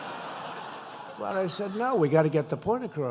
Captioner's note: laughter